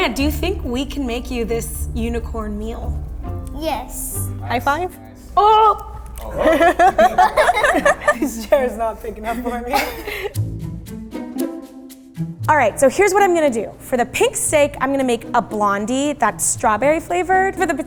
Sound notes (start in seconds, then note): 5.2 groaning; 6.1 laughing